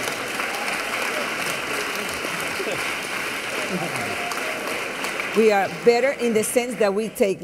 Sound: laughter; applause and cheers

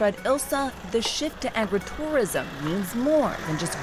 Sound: motor rumbles

